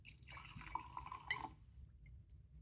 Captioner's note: liquid pouring